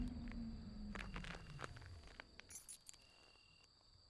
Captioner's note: insects chirping